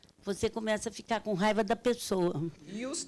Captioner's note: speaking Portuguese